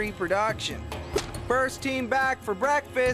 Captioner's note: Courtney smacks Duncan's Hands